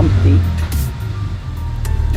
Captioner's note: car revving in background